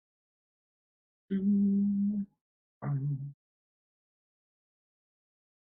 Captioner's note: humming